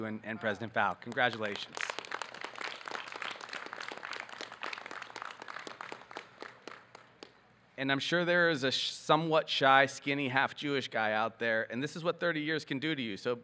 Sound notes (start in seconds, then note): 0.8 audience clapping